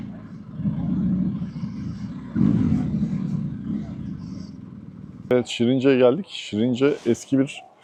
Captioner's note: engine Sound